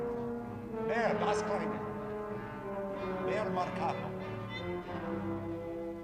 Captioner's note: speaking foreign language